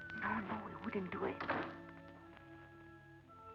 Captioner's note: door slamming